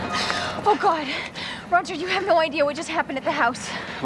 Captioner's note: sobbing